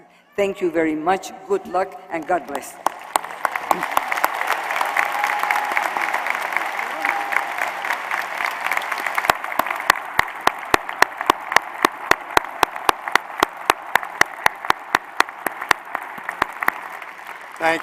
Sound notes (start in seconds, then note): 2.2 applause